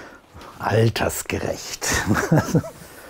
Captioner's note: laughter